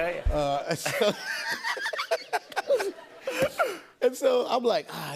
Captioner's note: laughter